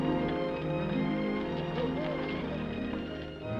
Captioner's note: gentle music; horse hooves clopping; gentle music